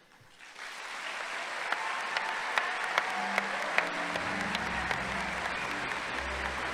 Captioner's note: audience applauding; crowd cheering